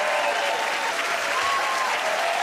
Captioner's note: cheers and applause